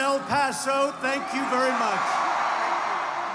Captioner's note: cheers and applause